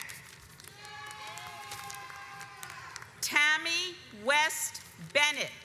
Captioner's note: audience cheers